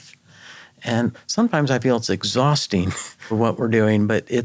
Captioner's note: chuckles